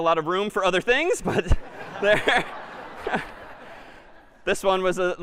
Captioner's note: laughter